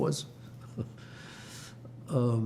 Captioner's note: laughing